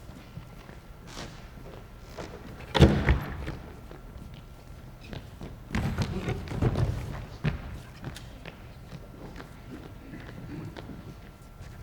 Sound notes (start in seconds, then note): 0.0 footsteps exiting; 2.5 door closes; 5.1 footsteps entering